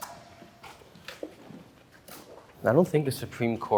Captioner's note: footsteps